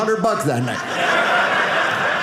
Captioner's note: audience laughing